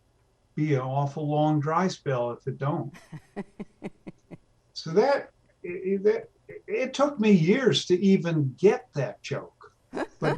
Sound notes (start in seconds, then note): 3.4 laughs